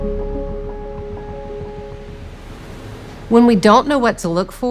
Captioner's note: ocean waves moving